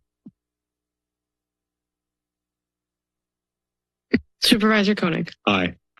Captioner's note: silence